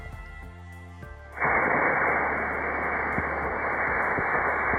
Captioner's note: rocket hissing